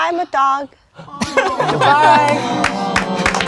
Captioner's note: crowd laughing; crowd applauding